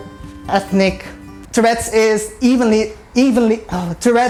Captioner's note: stumbles over words again